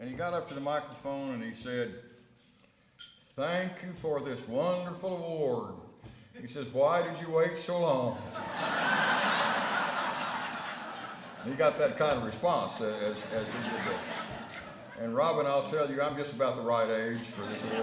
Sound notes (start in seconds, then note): 8.2 laughter